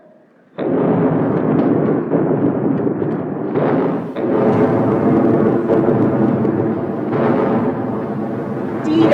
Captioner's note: distant explosions